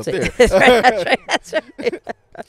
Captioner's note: laughs